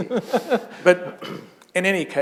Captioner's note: chuckle